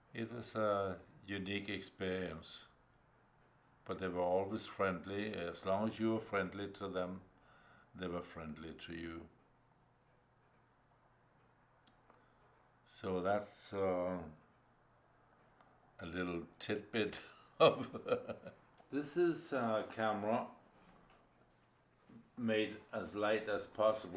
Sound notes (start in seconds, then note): 16.8 laughs